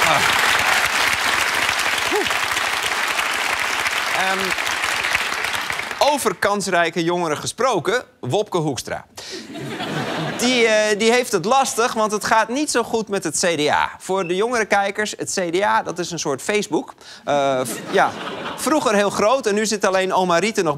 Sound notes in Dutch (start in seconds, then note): 9.4 gelach